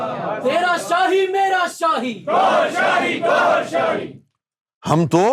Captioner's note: audience raising slogans